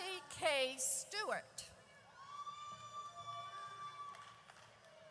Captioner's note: audience cheers